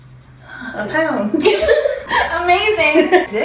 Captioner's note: both laugh